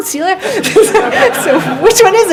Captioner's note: laughs